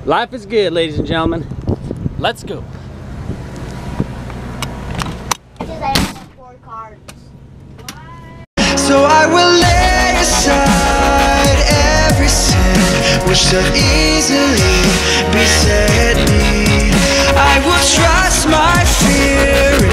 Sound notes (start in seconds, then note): 6.1 door clicks shut; 6.1 theme music